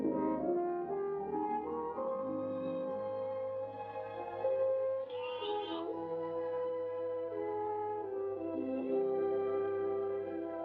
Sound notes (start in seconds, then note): 0.0 sad, romantic music; 5.1 lamb bleats; 6.3 sad, romantic music